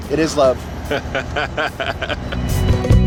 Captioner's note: laughs; upbeat instrumental